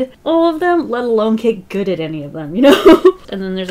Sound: laughs

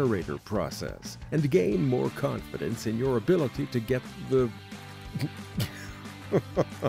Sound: laughter!

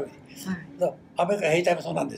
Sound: foreign language

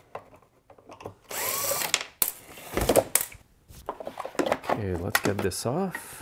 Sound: driver tool roaring continues

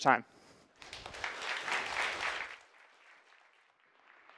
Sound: applause

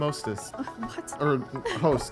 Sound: laughing

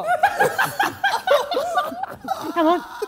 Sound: Sidemen laughing

